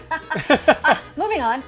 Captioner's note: laughing